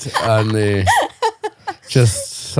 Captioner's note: laughing